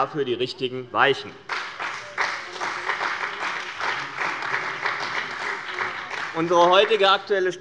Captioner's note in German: Beifall bei dem BÜNDNIS 90/DIE GRÜNEN und der CDU